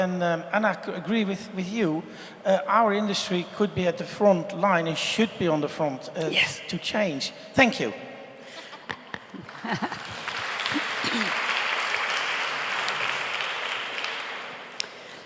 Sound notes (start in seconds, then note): 8.5 laughs; 10.8 applause